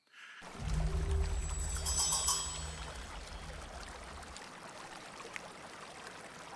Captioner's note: eerie music; creek flowing